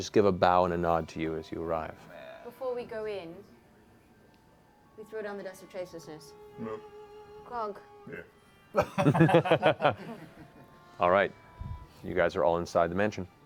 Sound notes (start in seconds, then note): 8.7 laughter